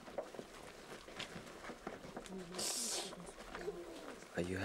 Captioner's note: sniffling